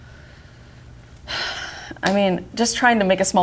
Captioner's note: sighs